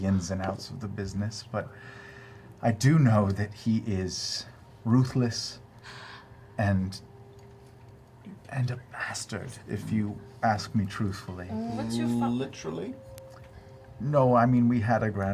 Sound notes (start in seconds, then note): 3.0 inhales